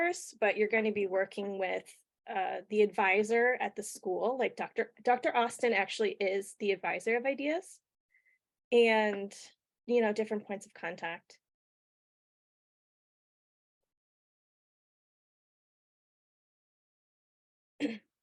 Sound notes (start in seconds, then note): 13.6 pause